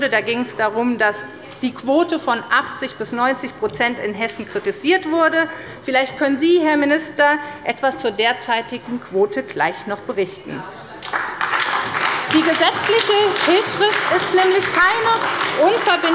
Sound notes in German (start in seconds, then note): 11.0 Beifall bei der SPD